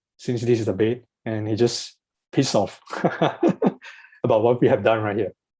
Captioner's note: laughs